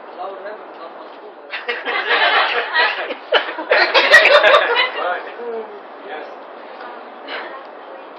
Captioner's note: gülüşmeler